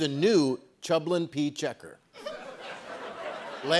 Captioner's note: laughter